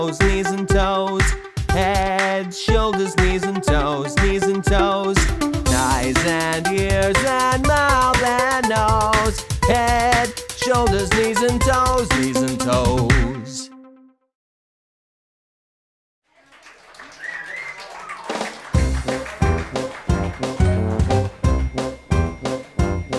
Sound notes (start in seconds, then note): 16.3 audience applauds; 18.6 upbeat jazzy music